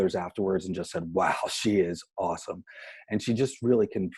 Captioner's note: chuckles